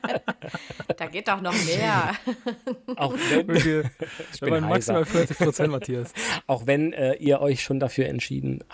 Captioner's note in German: gelächter